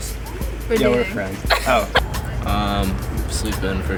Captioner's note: laughs